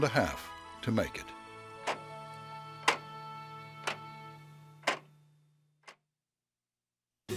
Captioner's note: clock ticking